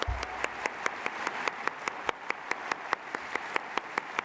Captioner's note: applause